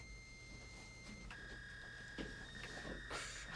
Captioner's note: fax signal beeping